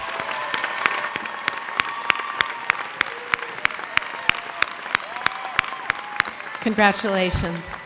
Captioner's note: applause